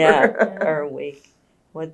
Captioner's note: laughs